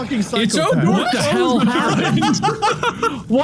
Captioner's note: Mark cackles